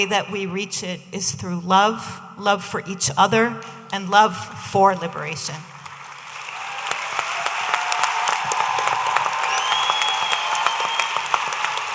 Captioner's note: audience applauding